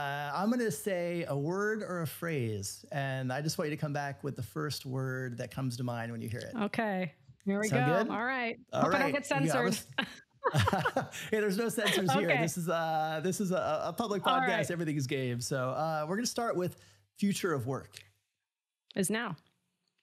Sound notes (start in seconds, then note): 10.4 laughs; 10.4 chuckles